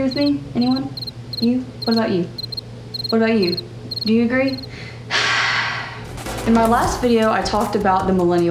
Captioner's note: sigh